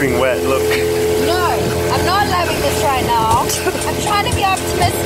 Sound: laughs

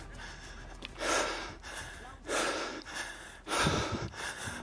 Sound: panting heavily

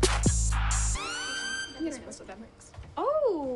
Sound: indistinct chatter

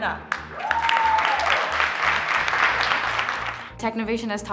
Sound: audience cheering and clapping

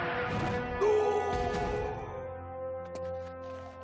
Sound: screaming

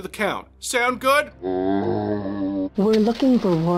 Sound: zombie groan

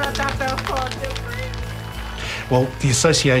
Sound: clapping

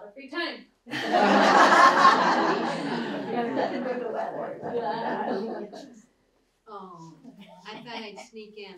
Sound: laughter

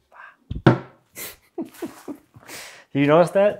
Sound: door snaps shut

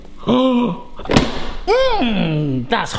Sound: gasps

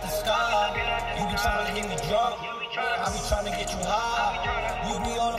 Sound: drunk

